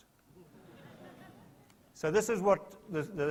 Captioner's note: soft laughter